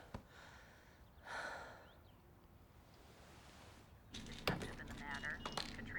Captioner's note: Bryn exhales sharply